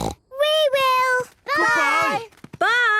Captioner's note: snort